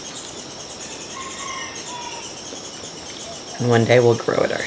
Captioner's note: rooster crowing